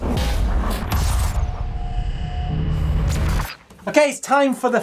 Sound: percussive rumbling

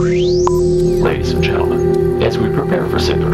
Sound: radio voice 1

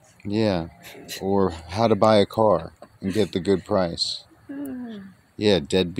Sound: laughing

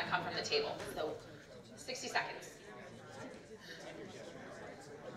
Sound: audience chatters

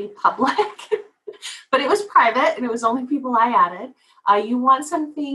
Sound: laugh

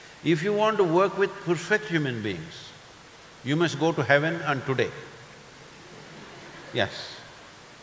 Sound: few laugh

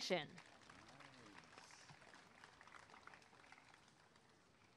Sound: applause and cheering

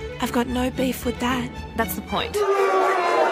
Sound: jeering, barking

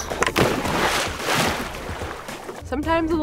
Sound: water splashing

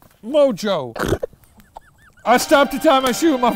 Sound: snorts

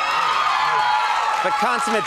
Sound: crowd cheers

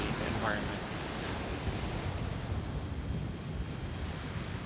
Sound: waves breaking

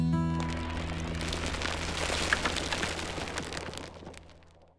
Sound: rocks crumbling

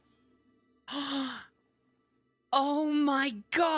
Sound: gasp

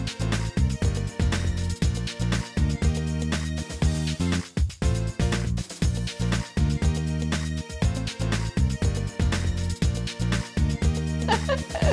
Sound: laughing

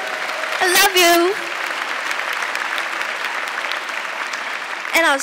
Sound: audience clapping

